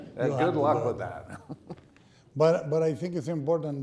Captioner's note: laughing